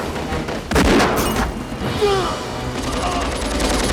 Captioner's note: groans